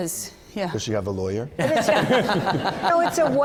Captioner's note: laughter